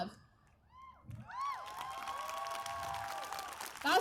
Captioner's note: cheers, applause